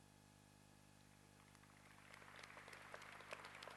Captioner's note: applause